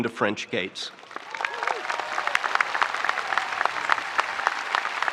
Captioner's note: audience applauding